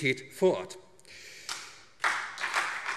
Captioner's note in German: Beifall SPD, Freie Demokraten und DIE LINKE